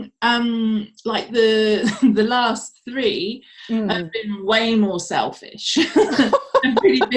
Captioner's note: chuckles